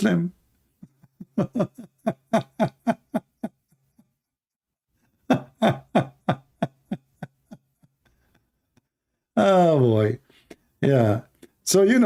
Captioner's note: Ketawa